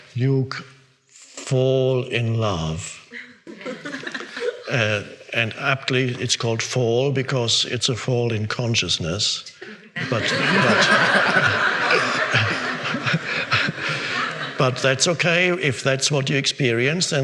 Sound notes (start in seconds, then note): 3.4 audience giggles; 9.8 audience laughing